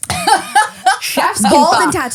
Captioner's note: laughing